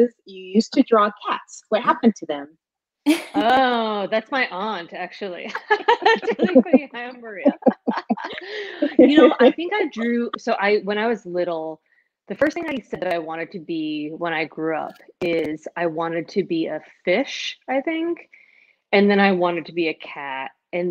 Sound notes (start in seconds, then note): 5.5 laughing